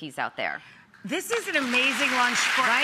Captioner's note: audience clapping